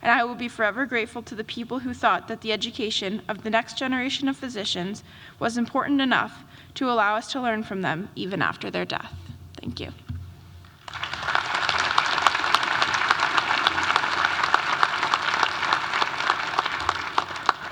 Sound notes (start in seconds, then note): 10.7 audience applauding